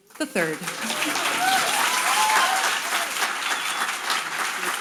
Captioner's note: audience applauding